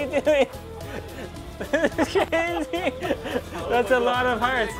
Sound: men laughing

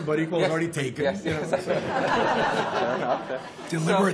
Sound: laughter

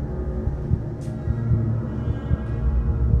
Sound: faster heart beats

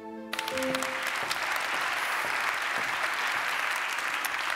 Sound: audience applauds

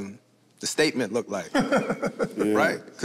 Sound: group laughs

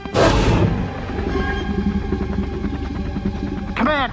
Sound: T-Rex and Velociraptor sounds; helicopter engine sounds

